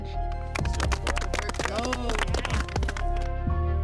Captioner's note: group applauding; soft music